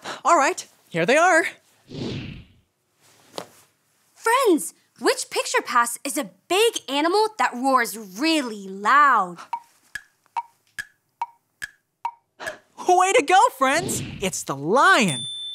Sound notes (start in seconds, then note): 1.8 picture passes swooshes; 9.9 clock ticking